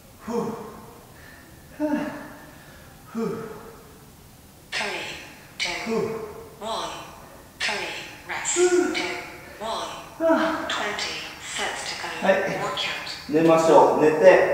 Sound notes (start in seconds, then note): 9.6 breath out